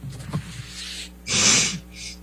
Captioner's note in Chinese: 吸鼻涕